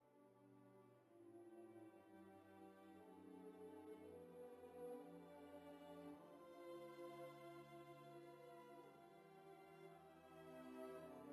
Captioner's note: speaking French